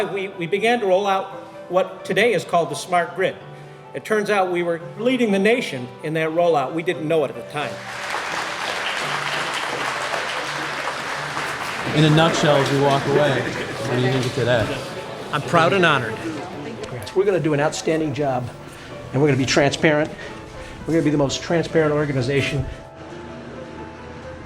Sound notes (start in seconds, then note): 7.7 applause